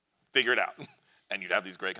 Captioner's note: chuckles